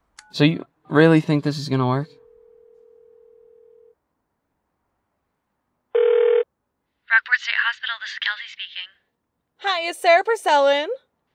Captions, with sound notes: So you really think this is gonna work? [PHONE RINGING] - Rockport State Hospital. This is Kelsey speaking? - Hi, is Sara Purcell in?